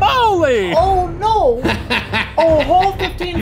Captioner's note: laughing